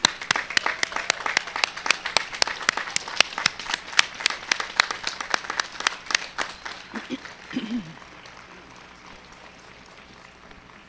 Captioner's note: applause